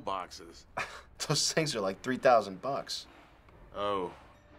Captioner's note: laughter